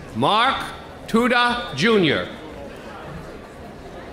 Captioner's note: none